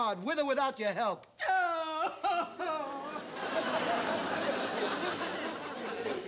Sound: aunt sophie crying

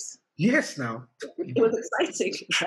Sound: laughter

